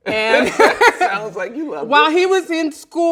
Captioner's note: both laugh loudly